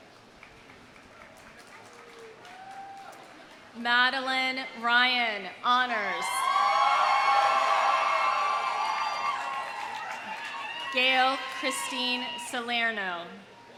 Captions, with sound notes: (audience applauding) (audience cheers) Madalyn Ryan, honors. (audience cheering) (audience applauding) Gail Christine Salerno.